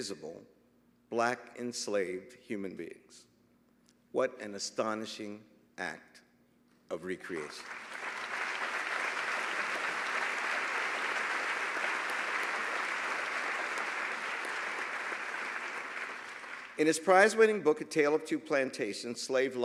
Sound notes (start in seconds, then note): 7.3 applause